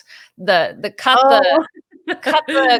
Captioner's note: laughs